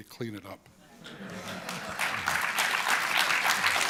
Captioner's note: applause